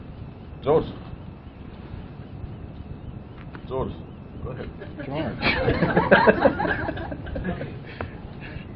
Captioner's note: Gülüşmeler